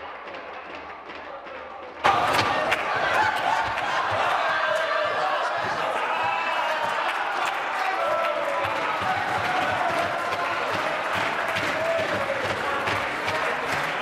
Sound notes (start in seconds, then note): 2.1 tapping of desks